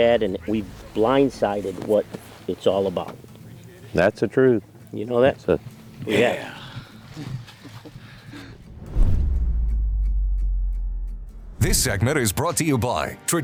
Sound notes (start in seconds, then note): 8.7 text swooshing